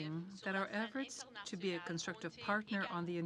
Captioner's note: speaking in french